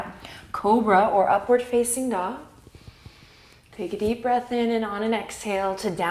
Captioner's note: inhale